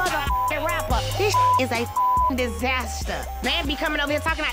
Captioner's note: beep